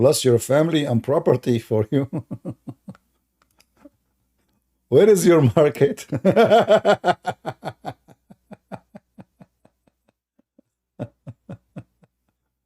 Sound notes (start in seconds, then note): 6.0 Ketawa